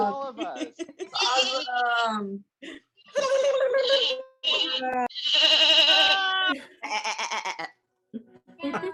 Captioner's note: laughter, happy words and noises, sheep bleats